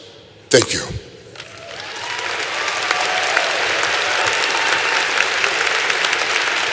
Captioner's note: applause